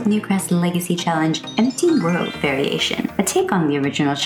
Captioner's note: magic flourish